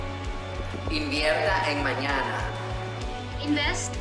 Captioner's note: speaks foreign language